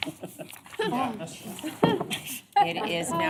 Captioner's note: laughter